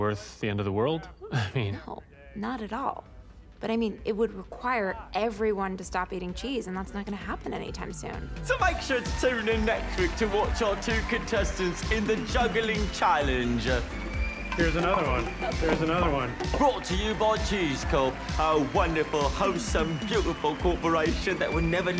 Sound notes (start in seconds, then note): 14.5 pins clatter